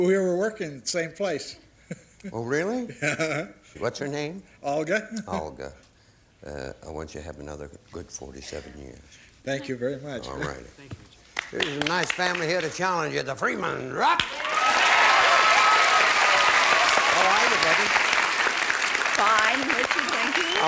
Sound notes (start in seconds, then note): 14.2 applause